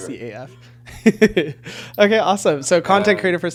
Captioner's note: laughing